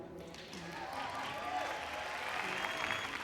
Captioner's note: clapping